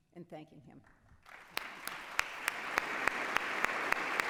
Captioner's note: applause